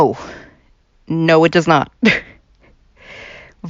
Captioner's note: laugh